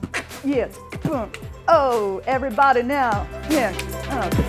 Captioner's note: beatboxing